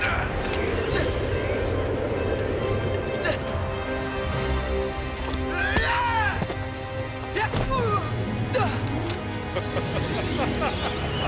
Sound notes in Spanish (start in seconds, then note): 0.1 viento silbando; 0.1 William gruñendo; 5.6 Xax gritando; 9.5 Zadrim riendo